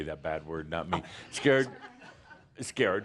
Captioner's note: some chuckles